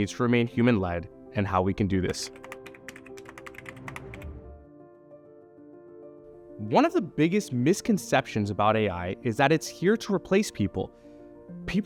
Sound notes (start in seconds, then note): 2.1 keyboard clicking; 2.6 gentle music